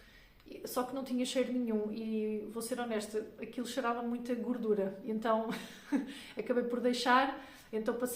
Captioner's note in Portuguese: risadas